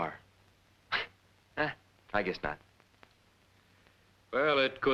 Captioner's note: chuckles